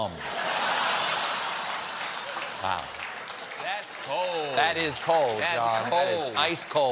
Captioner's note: laughter